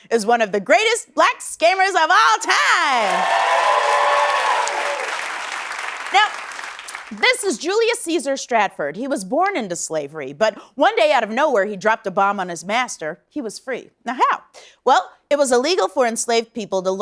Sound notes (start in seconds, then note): 2.8 cheers and applause